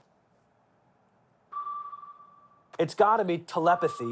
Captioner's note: signal beeping